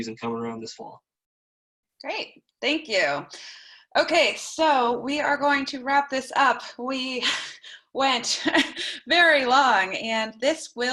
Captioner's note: laughter